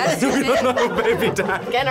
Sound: laughs

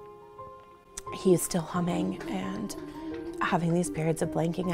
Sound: humming

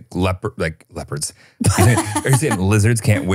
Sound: laughs

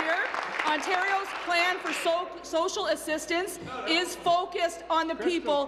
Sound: applause

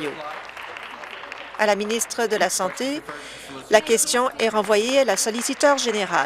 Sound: applause

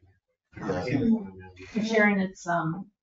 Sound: people speak distantly

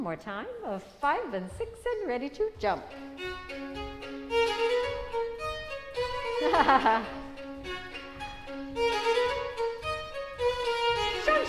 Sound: laughter

